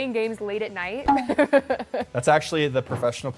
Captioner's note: laughs